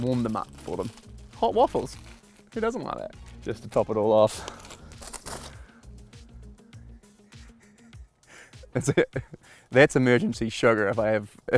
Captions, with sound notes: Warm them up for them. Hot waffles! Who doesn't like that? Just to top it all off, that's, (laughs) that's emergency sugar if I have,